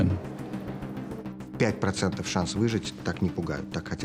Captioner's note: speaking Russian